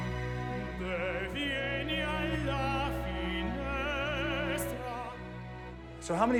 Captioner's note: vocalizing in foreign language